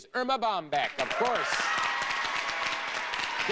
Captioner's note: audience cheering